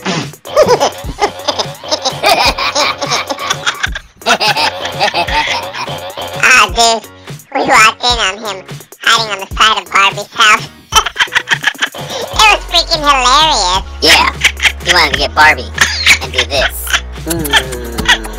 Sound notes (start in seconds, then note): 0.4 laughs; 10.9 laughs; 13.9 laughs; 16.9 makes kissing noises